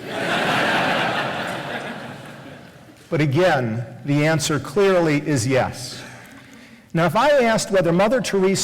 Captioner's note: laughter